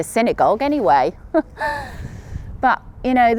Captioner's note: chuckles